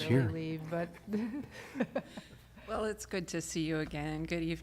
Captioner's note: laughter